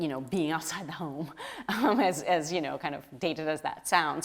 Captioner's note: laughs